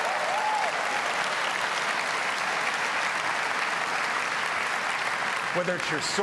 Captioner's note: applause